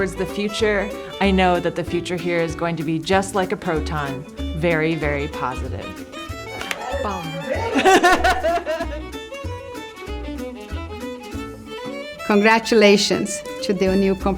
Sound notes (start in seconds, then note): 6.5 laughs; 7.7 imitates drum sound